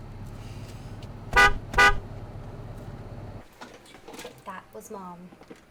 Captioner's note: horn honking